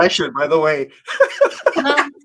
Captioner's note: laughing